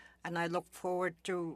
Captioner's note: speaking French